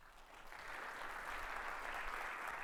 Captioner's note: audience applauds